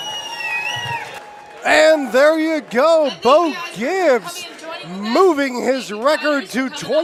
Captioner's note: applause